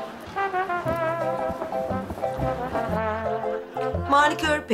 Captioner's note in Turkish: Gülme efekti